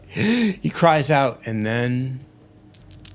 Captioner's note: sharp inhaling